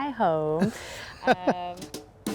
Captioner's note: laughs